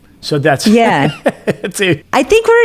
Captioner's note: laughs